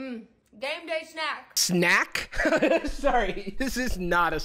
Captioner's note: laughs